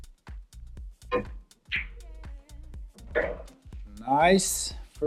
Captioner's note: billiard balls clanging